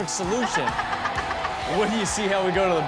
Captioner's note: Chanel laughing